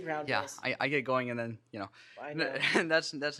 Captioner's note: laughs